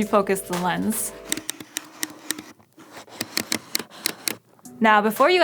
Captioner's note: clicking noises